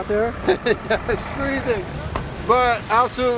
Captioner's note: laugh